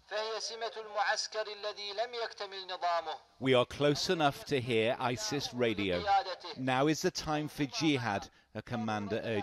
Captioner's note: speaking arabic